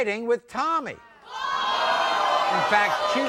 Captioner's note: crowd boos